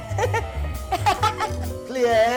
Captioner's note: laughing